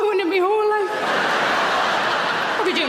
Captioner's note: audience laughing